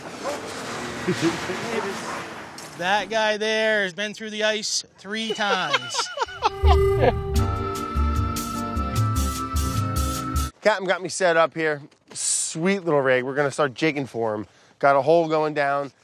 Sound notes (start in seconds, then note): 5.2 laughing; 6.2 more cheesy music